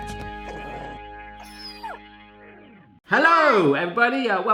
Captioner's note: dog growls; dog whimpers